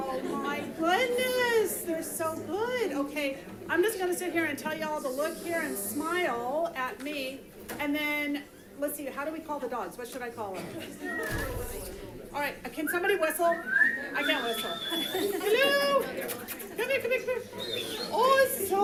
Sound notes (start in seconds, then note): 11.0 whistling